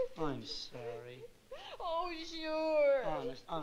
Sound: sobbing

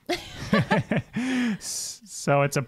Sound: laugh

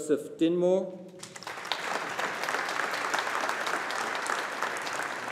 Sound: audience applauding

